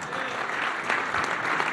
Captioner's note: applause